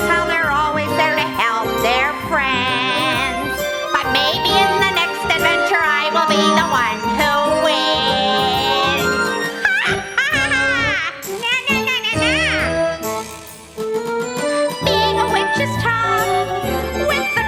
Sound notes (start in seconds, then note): 9.4 chuckling